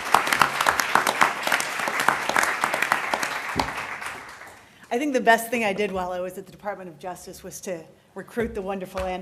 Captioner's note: applause